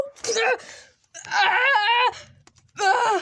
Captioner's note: Ken screams